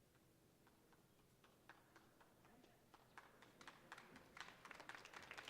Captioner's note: audience applauding